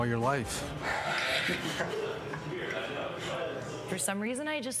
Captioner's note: laughs; 喋喋不休; chattering